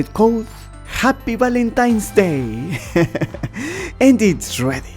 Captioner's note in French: rires